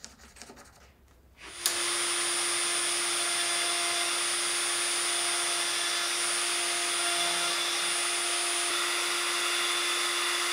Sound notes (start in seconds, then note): 1.4 saw zings